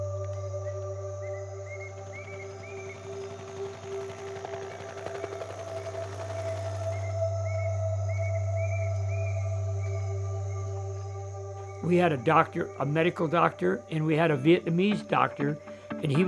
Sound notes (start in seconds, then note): 0.2 birds chirping; 3.2 chopper blades humming